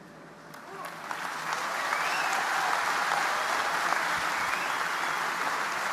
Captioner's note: audience applauding